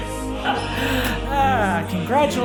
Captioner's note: chuckles